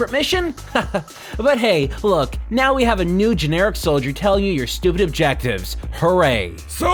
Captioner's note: chuckles